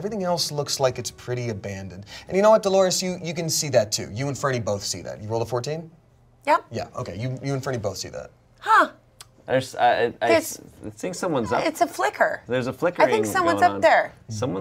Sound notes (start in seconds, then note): none